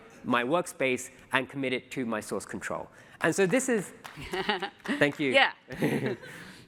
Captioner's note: applause